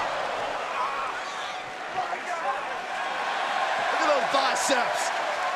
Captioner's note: crowd cheering